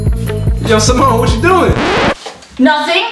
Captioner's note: vinyl skip sound